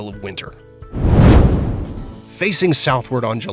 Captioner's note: meteor whooshes